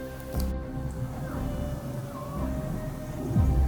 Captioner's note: caller cow calling